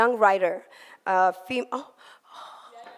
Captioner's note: foreign language